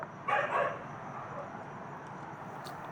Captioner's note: dog barking